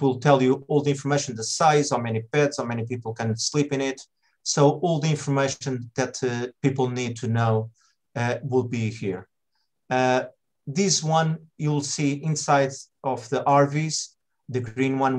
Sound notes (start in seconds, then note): none